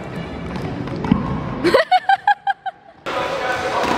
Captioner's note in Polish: śmiech